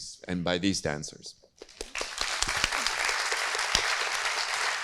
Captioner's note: audience claps